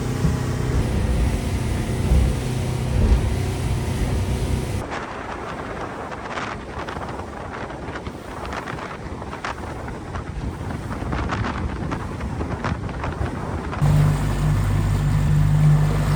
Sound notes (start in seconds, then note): 8.5 wind noise